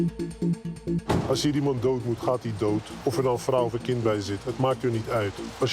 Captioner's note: Dutch spoken audio